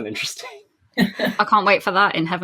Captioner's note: laughs